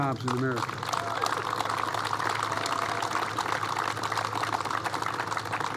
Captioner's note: applause